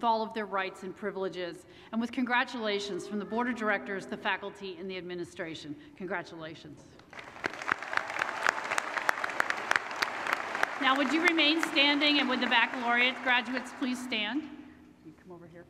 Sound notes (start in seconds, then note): 7.0 applause